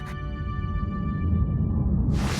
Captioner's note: epic whoosh